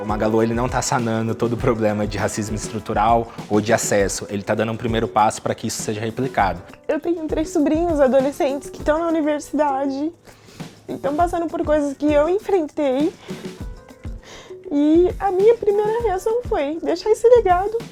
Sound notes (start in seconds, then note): 0.1 speaking Portuguese; 6.9 speaking Portuguese